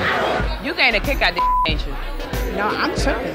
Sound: beep

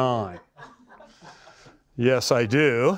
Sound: laughter

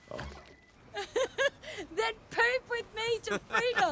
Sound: laughs

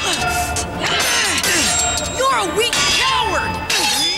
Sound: both grunting; Van shouting

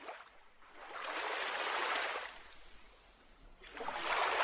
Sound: water sloshes

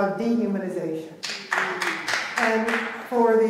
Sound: clapping

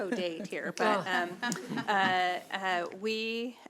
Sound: audience laughing

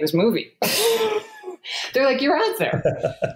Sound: laughs

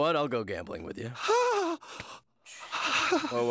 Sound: gasps

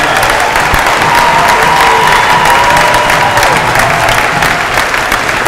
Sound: cheers and applause

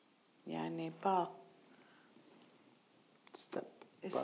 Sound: speaking in foreign language

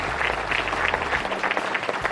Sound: applause

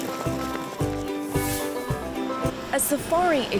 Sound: upbeat banjo music; air whooshes

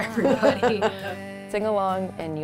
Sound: both laughing

